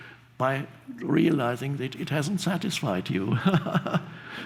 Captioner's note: laughs softly